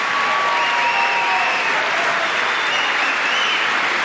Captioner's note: applause